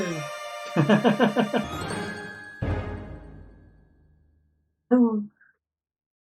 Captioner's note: friendship fanfare; chuckles